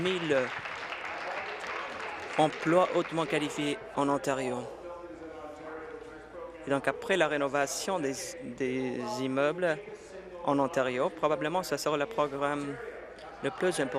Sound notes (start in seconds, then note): 2.7 applause